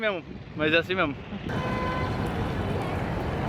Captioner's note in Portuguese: sons da rua